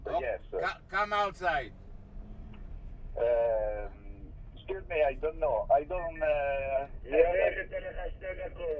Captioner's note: voiceover